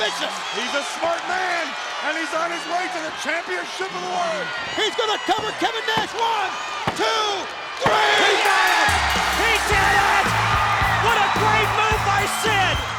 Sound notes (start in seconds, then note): 8.4 bell rings